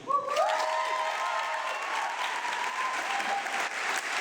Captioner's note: audience clapping